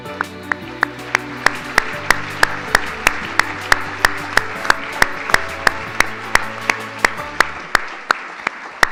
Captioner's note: audience applause